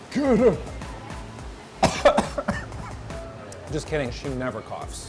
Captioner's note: coughing